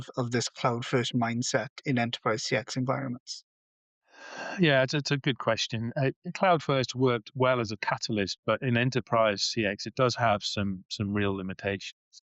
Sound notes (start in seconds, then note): 4.1 sighs and gasps